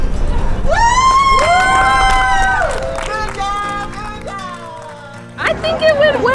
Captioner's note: crowd Cheering